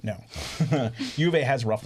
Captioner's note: laughs